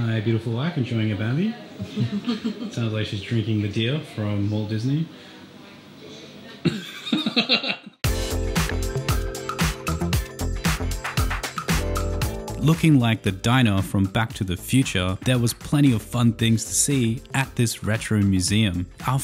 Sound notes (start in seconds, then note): 6.6 laugh